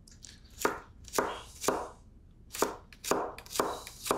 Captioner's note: knife chopping